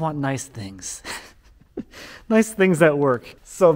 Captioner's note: chuckling